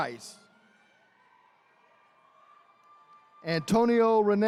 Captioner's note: attendees cheering